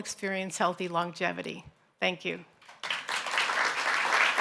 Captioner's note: applause